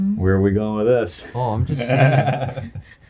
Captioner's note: laughs